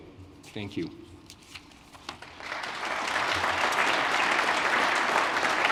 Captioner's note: applause